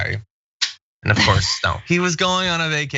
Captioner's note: laugh